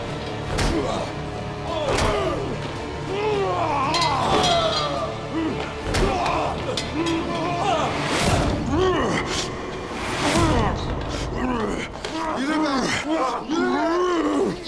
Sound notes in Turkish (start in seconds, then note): 0.2 Dövüş sesleri; 7.8 Vurma sesi